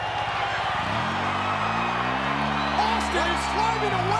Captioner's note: ATV engine roaring